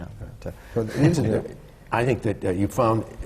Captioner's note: laughs